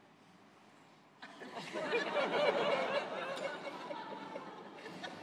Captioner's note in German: Lachen